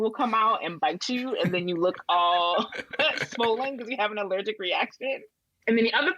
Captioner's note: laughs